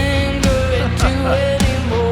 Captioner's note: laughs